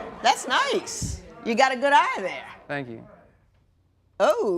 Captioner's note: laughter and applause